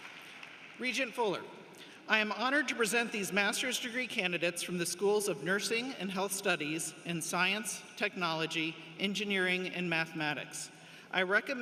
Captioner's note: cheers and applause